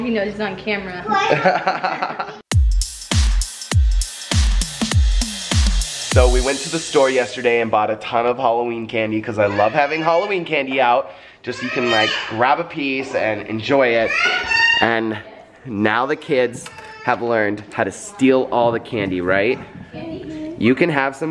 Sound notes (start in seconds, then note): 1.2 laughter; 2.4 upbeat music